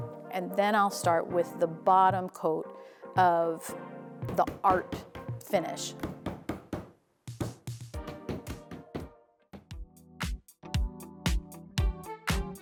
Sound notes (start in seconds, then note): 6.0 hammer pounding; 9.6 upbeat music